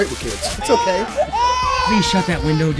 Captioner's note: crying